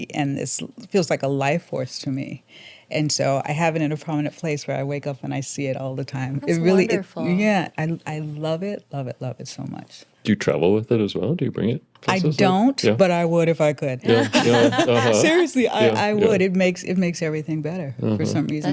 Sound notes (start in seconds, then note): 14.0 laughing